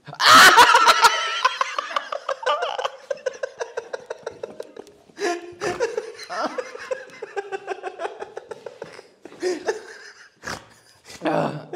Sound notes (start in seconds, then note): 1.6 hysterical Laughter; 5.2 snorting